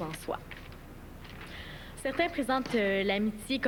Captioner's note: murmures dans la salle